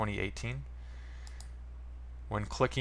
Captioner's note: mouse click